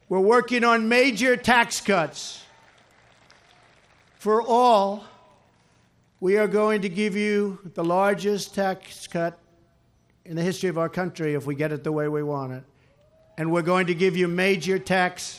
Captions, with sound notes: We're working on major tax cuts for all. We are going to give you the largest tax cut in the history of our country if we get it the way we want it, and we're going to give you major tax reform. (Applause.)